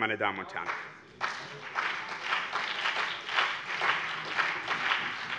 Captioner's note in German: Beifall BÜNDNIS 90/DIE GRÜNEN und CDU